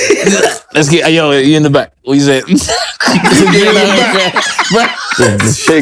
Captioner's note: laughter